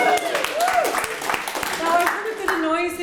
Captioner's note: audience applauds